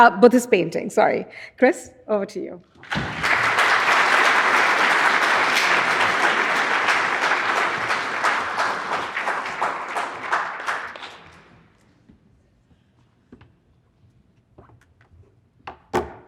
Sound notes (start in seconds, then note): 2.8 audience applauding